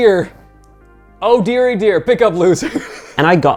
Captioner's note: laughing